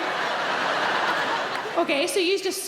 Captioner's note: audience laughing